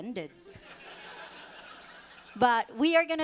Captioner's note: audience laughing